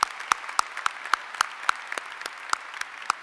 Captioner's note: applause